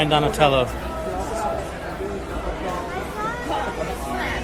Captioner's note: crowd chattering